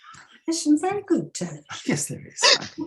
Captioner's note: chuckles